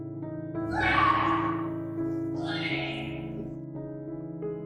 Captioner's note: yelling